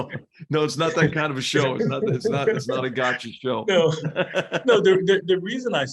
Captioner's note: laugh